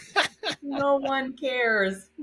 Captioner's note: laughing